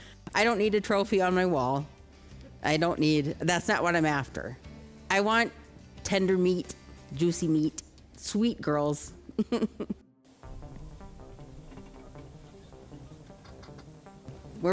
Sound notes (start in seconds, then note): 9.3 chuckles; 10.3 tense foreboding music